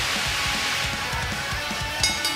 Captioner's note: bell ringing